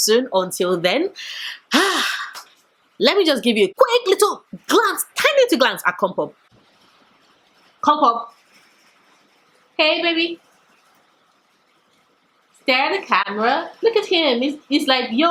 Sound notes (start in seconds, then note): 1.2 sigh